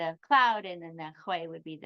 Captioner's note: speaks in foreign language